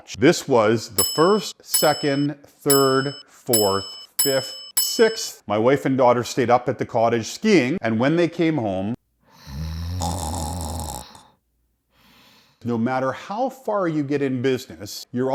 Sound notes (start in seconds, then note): 9.4 loud snoring